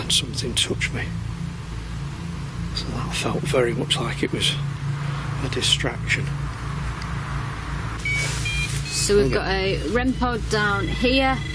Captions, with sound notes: and something touched me. And that felt very much like it was a distraction. (machine beeping) So we've got a REM pod down here.